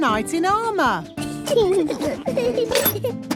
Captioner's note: children giggling